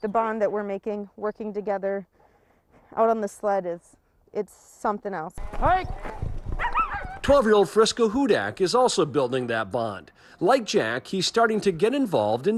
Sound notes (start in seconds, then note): 6.5 dogs barking